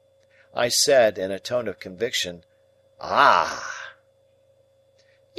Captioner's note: in a tone of conviction